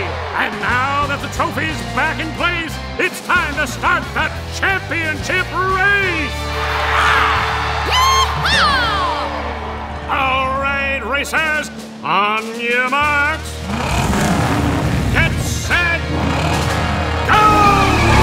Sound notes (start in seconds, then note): 6.9 roaring; 13.5 revving